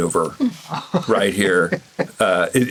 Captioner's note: Gilligan chuckles